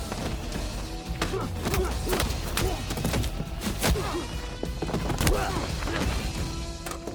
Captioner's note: fighting, grunting; car door opens